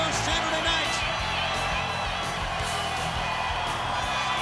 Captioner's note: crowd cheering